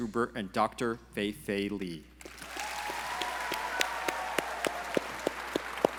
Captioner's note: audience cheering